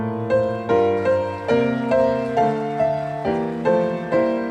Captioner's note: audience applauding